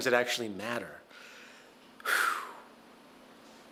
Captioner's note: pheew